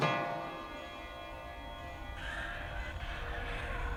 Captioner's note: chiming clock